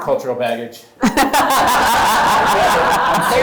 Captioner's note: group laughs